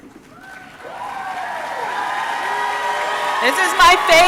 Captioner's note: audience clapping; audience cheering